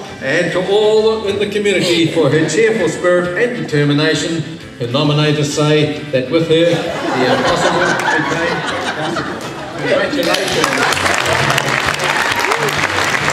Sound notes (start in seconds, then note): 6.6 laughter; 10.0 cheering and clapping